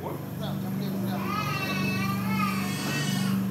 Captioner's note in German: Stimmengewirr, Kindergeschrei